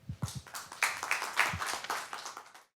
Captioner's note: applause